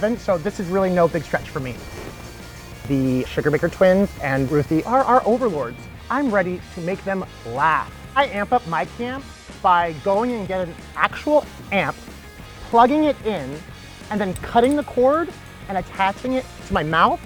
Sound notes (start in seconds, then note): none